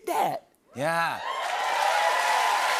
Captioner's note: cheers and applause